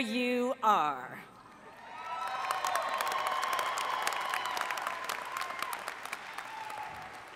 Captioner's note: cheering